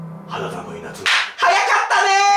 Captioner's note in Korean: 짝!